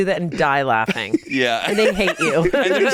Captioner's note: laughs